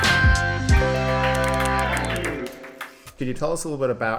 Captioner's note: upbeat music; applause